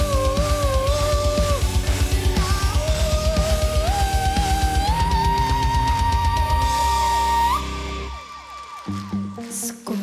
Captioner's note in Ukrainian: оплески